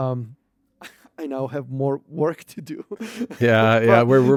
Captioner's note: laughs